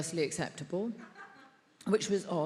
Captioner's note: attendee laughs